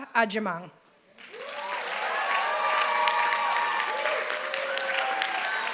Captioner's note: applause